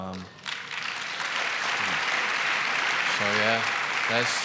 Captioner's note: applause